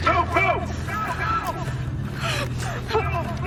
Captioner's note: soldiers yelling